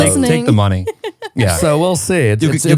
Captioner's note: laughing